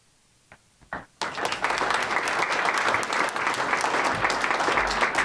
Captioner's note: audience applauding